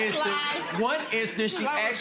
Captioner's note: audience laughing